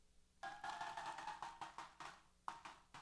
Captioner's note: applause & Cheers